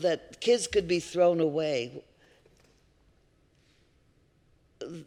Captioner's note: none